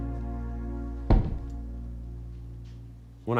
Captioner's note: thudding